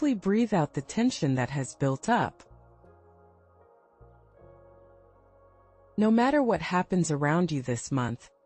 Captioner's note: pause